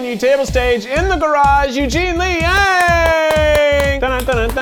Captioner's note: applauding